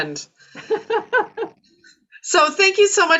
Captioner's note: laughs